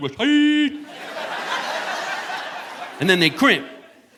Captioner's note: audience laughing